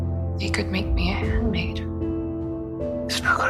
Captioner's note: voiceover